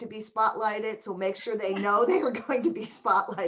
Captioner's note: laughter